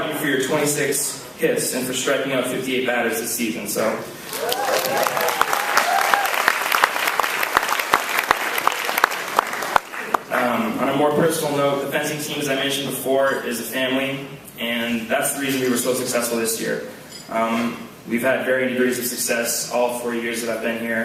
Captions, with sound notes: I applaud you for your 26 hits, and striking out 58 batters this season. [Applause] On a more personal note, the fencing team as I mentioned before, is a family, and that's the reason we were so successful this year. We've had varying levels of success all 4 years that I've been here.